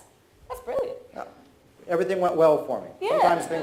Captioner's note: audience laughs